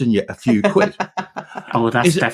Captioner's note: laughing